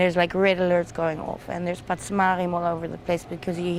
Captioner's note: hebrew